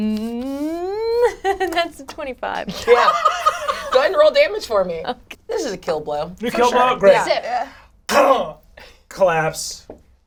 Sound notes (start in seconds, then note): 1.0 laughing; 3.0 all laugh